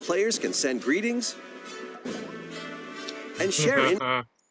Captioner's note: sleepy laughter